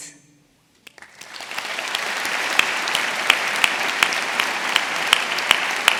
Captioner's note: audience applauding